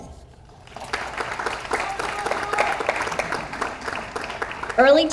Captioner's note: audience applauds